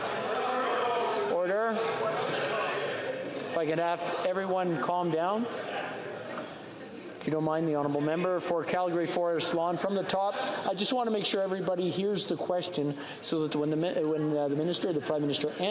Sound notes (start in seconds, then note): 2.3 yelling